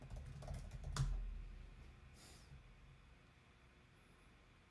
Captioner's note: keyboard clicking